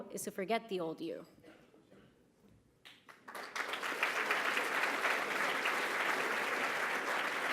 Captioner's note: applause